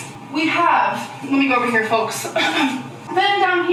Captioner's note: clears throat